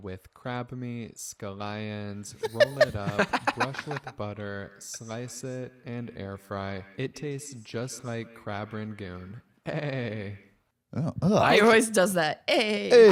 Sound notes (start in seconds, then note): 9.6 stuttering